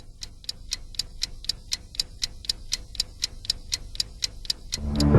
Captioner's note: tick-Tock